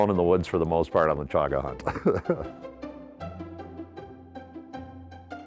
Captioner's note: chuckling; cheerful music